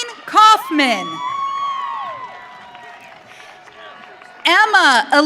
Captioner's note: audience cheering